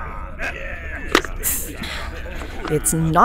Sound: intake of breath; helmet unlocking, hiss

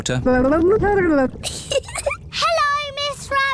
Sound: gurgles; giggles

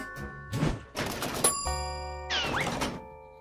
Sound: elevator bell dings

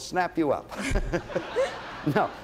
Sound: laughter

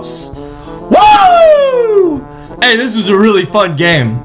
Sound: siren-like hollering

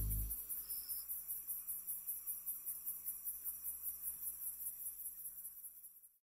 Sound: grillos

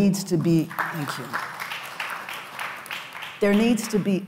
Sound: audience applauds

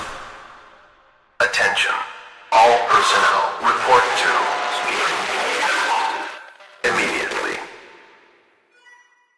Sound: distortion

